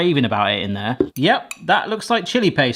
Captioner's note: glass thuds